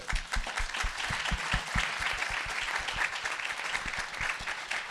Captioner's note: audience applauding